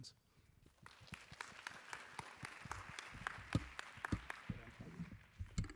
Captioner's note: applause